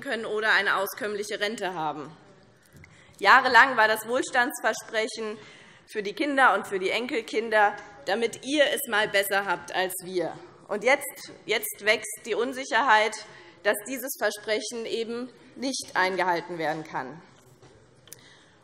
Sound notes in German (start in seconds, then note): none